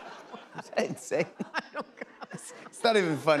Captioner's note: laughs; laughter